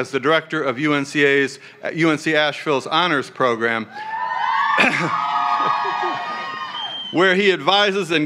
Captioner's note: cheering